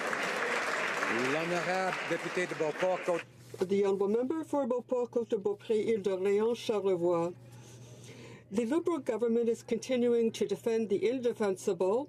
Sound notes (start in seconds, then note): 0.0 some Applause; 5.2 speaking French